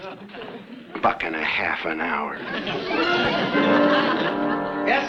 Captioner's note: audience laughs